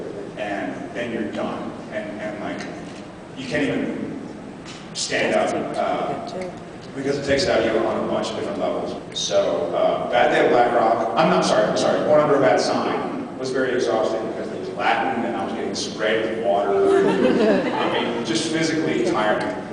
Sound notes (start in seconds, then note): 16.8 laughs